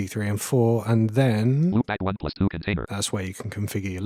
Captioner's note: automated voice